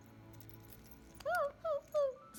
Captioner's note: whimper